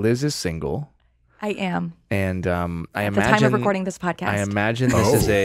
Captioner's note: laughs